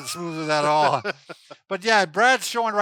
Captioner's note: laughing